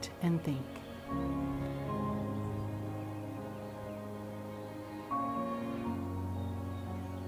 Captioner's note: birds chirping; gentle music